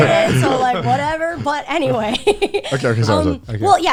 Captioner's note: laughs